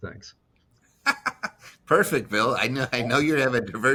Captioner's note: laughs